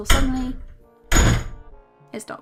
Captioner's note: slam